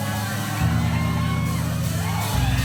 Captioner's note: cheering